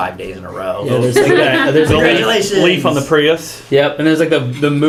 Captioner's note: laugh